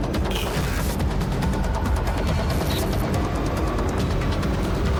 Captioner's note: static hisses and buzzes